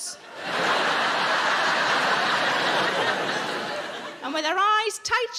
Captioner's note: audience laughing